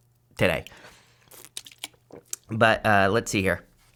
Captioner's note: slurps